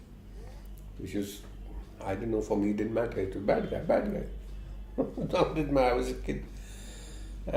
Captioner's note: laughs